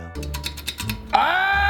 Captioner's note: metal clanging